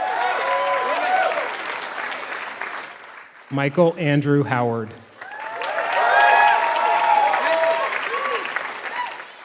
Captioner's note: applause